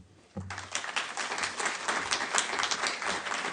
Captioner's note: applause